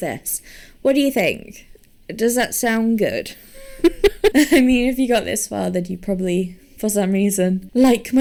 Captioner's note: laughs